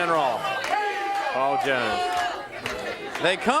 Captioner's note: crowd cheering